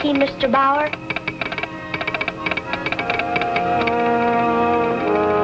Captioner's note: telegraph ticking